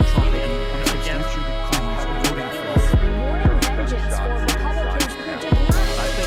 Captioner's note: reporters consecutively chattering